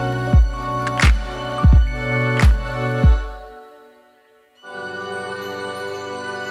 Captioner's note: soft music; bells chiming